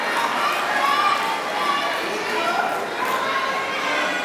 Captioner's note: cheering